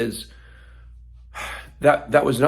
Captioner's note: sighs